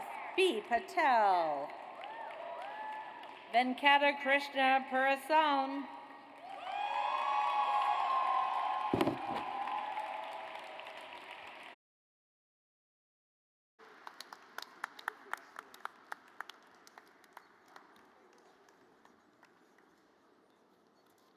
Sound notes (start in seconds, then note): 1.8 audience cheers; 6.4 audience cheers; 15.6 audience applauds